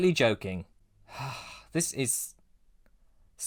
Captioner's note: sigh